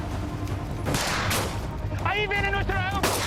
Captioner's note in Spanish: Disparos